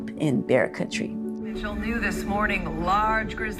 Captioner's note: sound of a TV